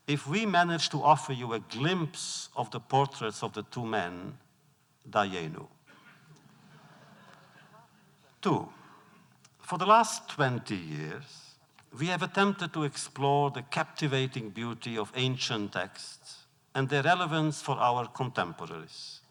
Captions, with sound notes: If we manage to offer you a glimpse of the portraits of the two men, dayenu. (laughter) Two. For the last 20 years, we have attempted to explore the captivating beauty of ancient texts, and their relevance for our contemporaries.